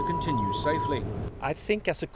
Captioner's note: beeping